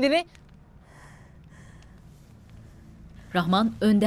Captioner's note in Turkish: Nefes sesleri